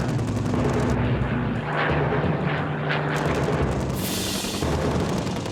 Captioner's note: plane engines roaring; dramatic music